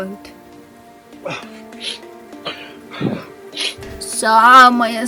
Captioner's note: whimper